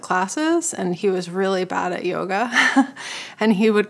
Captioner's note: laughs